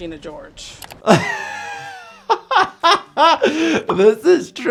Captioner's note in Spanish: riendo